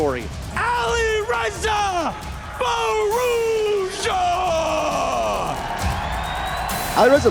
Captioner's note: crowd cheering, applauding